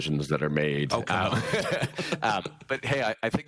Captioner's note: chuckles; laughing